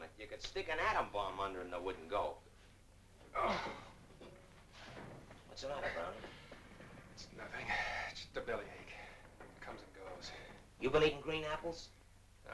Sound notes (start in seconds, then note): 3.3 Brownie groans in pain